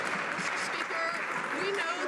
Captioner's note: some Applause